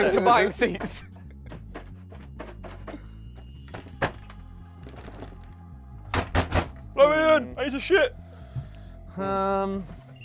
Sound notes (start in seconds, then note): 3.6 metal doors clanging